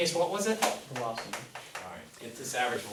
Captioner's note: voiceover